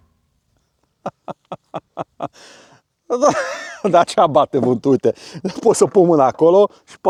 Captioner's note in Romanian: Râsete